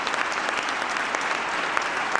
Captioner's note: applause